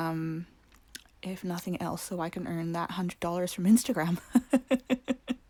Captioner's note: laugh